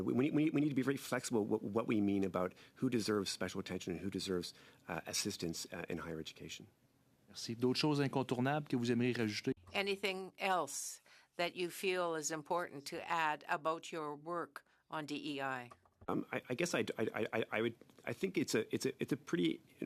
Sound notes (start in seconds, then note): 11.7 speaking French